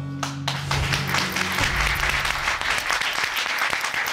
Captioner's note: audience applauding